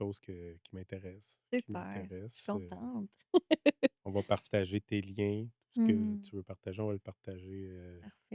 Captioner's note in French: rires